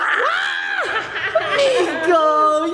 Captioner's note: screams